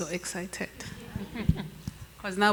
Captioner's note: chuckles